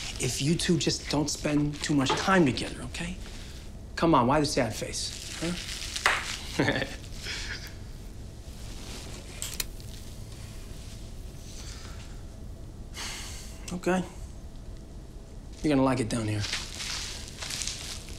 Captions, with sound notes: if you two don't spend too much time together, okay? Come on, why the sad face, huh? (laughs) (sighs) Okay. You're gonna like it down here.